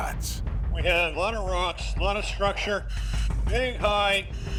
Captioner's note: speaking over radio